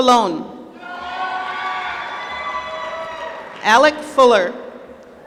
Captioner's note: applause